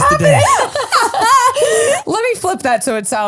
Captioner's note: laugh